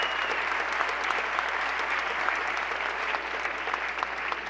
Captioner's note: cheers and applause